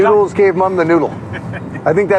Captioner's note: Owen laughs